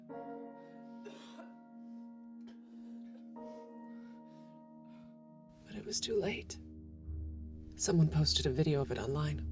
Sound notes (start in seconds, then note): 1.0 Ava coughs; 3.2 Ava panting